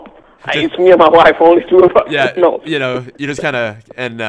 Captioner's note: laughs